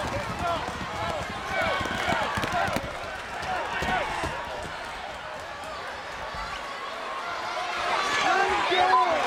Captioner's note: crowd cheering